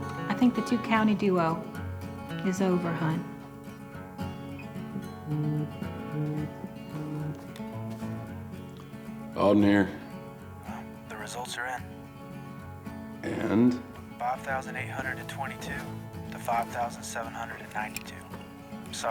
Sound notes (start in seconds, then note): 4.9 phone vibrates